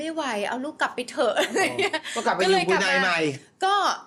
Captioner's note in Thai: เสียงหัวเราะ